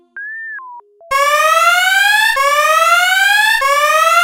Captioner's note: offhand electronic music; alarm blares